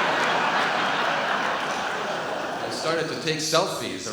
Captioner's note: audience laughs